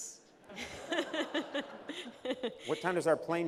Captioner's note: laughter